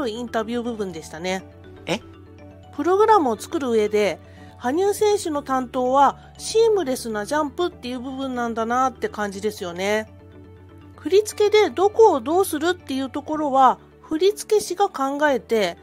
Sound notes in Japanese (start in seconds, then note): 1.8 羽生結弦の驚く声